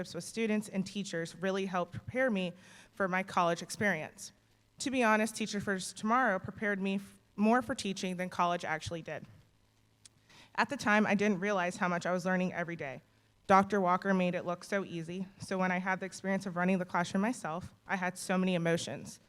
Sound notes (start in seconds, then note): none